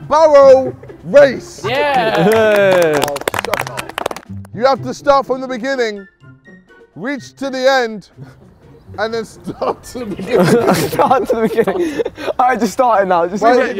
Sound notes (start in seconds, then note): 1.7 men clapping; 9.4 laughing; 10.9 men laughing